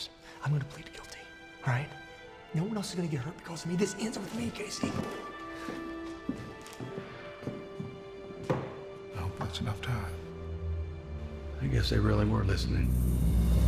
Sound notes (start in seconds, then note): 3.7 casey's footsteps